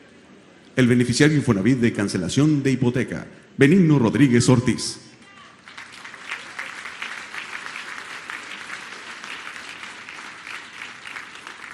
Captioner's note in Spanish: aplausos